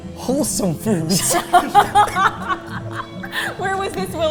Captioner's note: both laughing